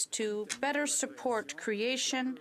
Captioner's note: speaking French